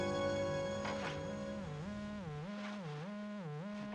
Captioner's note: line buzzing